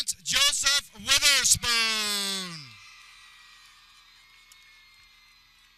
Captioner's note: people cheering